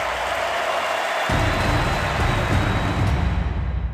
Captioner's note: fans cheering